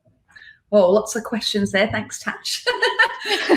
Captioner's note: laughing